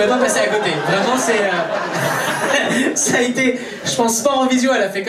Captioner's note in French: rires public